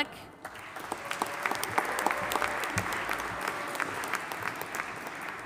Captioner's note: audience applauding and cheering